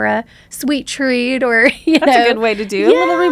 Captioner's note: laughs